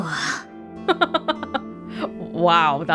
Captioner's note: chuckles